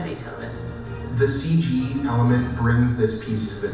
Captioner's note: voiceover